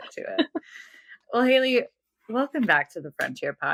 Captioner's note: <Laugh>